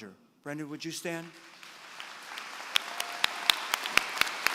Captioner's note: applause